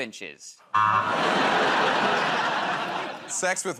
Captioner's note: laughter, buzzer